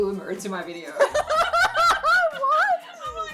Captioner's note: laughing